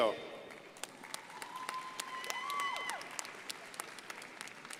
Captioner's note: crowd applauding